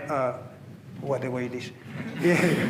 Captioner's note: laughter